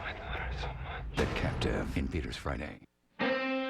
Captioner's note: whispering